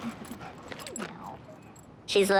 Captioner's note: pants